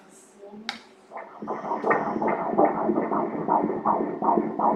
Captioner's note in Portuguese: batimentos cardíacos